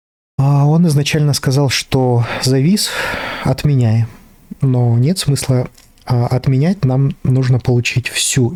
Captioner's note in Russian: вздыхает